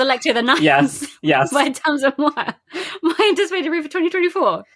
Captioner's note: laughing